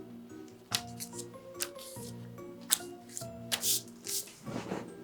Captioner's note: sound of attaching paper